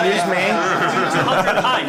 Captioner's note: laughter